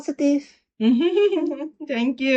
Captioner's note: laughs